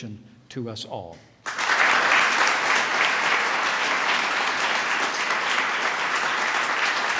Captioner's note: applause